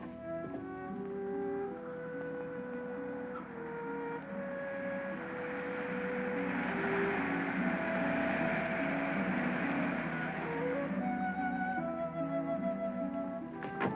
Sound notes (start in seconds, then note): 4.8 engine puttering